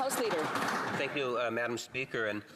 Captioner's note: some Applause